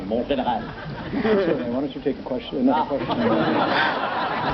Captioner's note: audience laughs